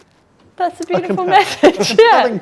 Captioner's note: laughs